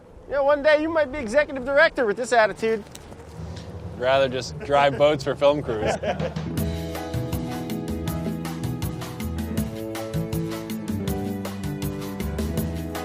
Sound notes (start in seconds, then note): 6.0 group laughs; 6.8 uplifting jazz music